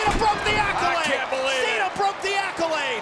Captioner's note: crowd cheering; body thudding